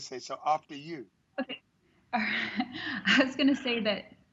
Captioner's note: chuckles